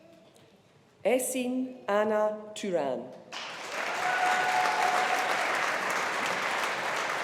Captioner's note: audience applauding